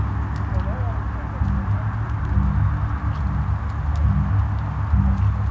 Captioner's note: thumping sounds